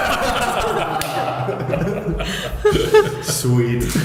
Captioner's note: laughing